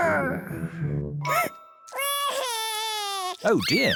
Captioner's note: sobs